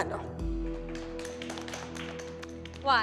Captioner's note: applause